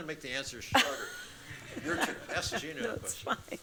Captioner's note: laughter